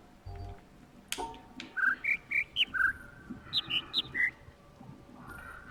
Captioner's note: overlapping birds chirping, ˥ ˧ ˥ ˩